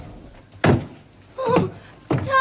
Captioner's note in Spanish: Gemidos